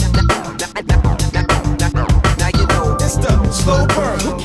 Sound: record scratches, voice distorts

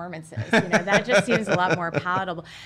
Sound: laughs

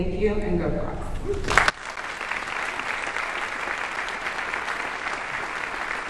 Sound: audience applauding

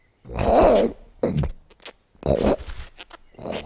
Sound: fox grunts; fox growling

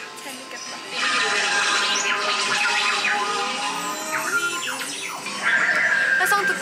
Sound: beep beep beep

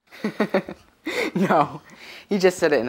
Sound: laughs

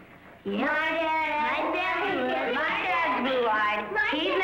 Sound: children mumble

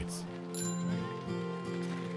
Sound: bike bell

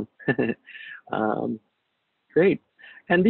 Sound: laughs

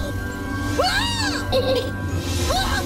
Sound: screams; screaming

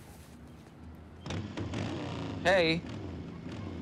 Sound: motorcycle engine revving

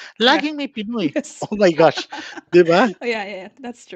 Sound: laughs

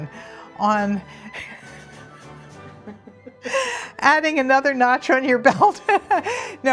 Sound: laughs

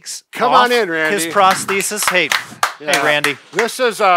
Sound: claps

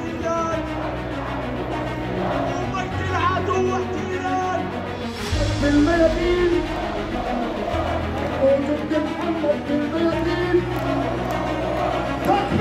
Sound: political chanting in relation to Palestine

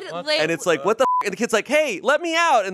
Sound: beep

